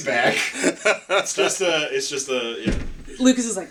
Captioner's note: knock